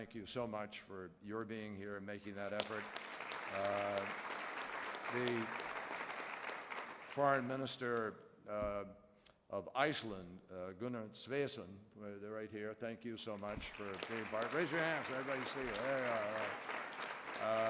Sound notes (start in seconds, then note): 4.8 applause